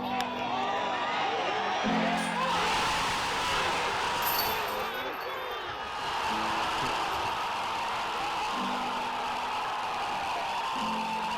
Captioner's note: crowd cheering